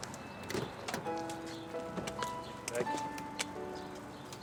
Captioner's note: door opens